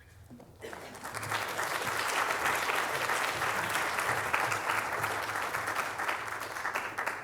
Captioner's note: applause